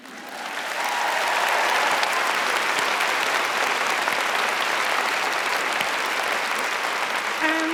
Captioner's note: applause